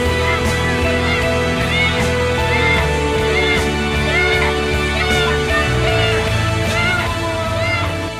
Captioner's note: kids yelling